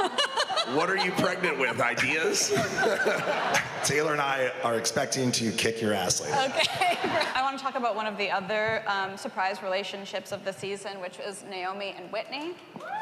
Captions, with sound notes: What are you pregnant with? Ideas? [all laughing] Taylor and I are expecting to kick your ass later. Okay. [laughs] I wanna talk about one of the other surprise relationships of the season, which was Naomie and Whitney.